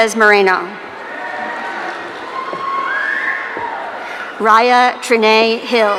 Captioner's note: audience cheering